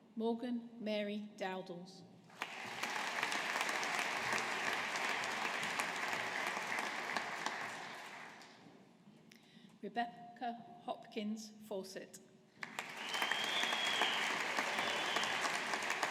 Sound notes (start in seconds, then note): 2.3 audience applauding; 12.6 audience applauding